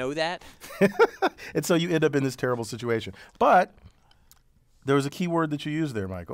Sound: laugh

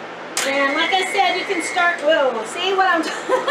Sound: KitchenAid machine roaring; laughs loudly

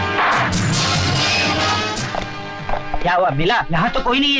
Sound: none

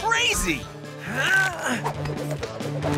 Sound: grunting

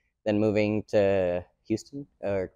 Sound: none

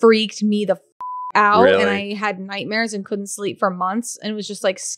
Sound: beep

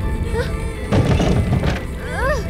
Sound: crashing objects

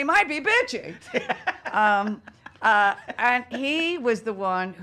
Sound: laughing

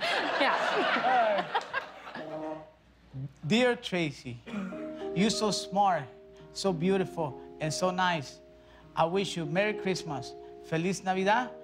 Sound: laughter

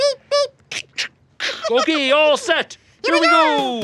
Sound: crackling mouth

